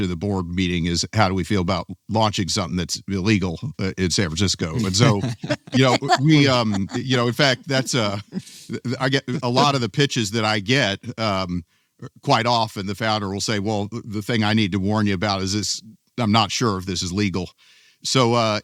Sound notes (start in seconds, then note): 4.3 laughs